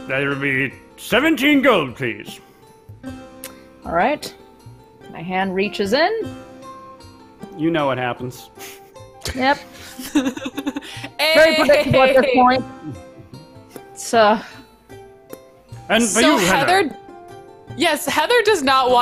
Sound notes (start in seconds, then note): 11.2 laughs